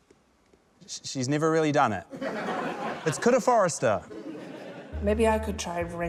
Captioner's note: laughter